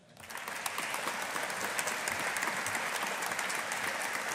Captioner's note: audience applauding